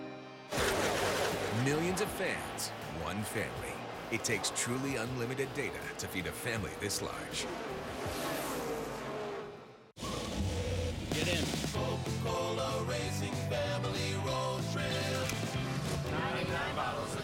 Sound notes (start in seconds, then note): 9.8 engines roaring